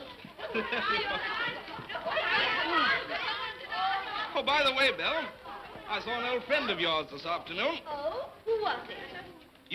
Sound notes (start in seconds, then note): 0.0 children clamoring; 0.3 laughs; 2.1 children clamoring